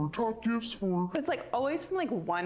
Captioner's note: normal voice